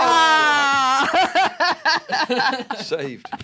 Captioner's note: laughing